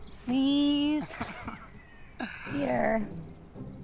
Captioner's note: Peter laughs